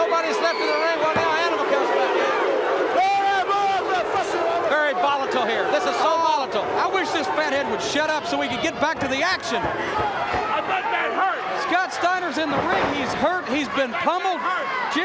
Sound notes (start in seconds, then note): 2.4 audience barks; 3.4 Samu speaks in Indigenous language